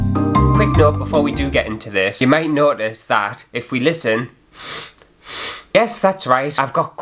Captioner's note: relaxing Music; sniffles